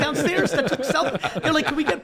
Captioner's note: all laugh